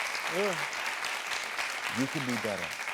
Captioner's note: audience applauding